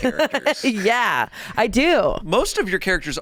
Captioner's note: laughs